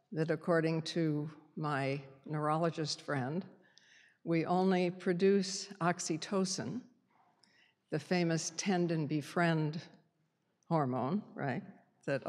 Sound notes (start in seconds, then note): none